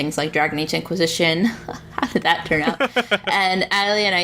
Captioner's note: laughs